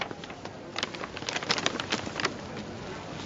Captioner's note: rustles